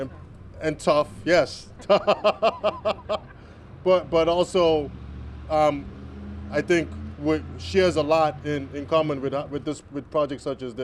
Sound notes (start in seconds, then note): 1.8 laughter